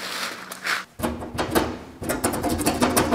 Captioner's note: rattling